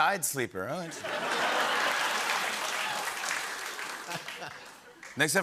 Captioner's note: laughter and applause